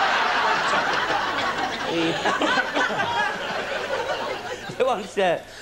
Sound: laughter

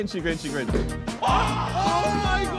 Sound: men yelling

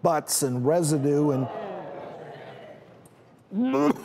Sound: audience groans

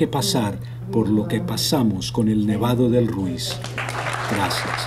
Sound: Aplausos

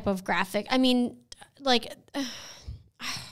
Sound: sighs

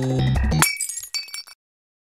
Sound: glass shatters

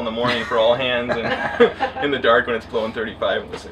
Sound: laughter

